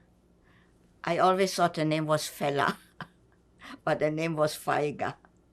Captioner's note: laughing